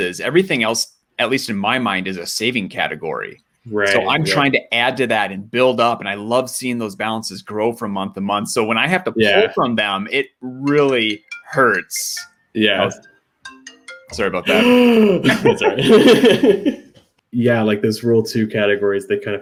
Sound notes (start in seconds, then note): 11.1 phone ringing; 14.4 shrieks